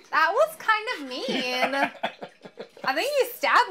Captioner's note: laughs